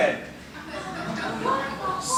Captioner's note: laughter